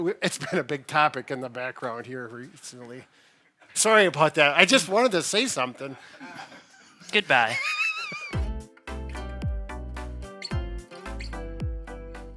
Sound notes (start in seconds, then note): 6.1 chuckling; 8.0 laughing; 8.3 light music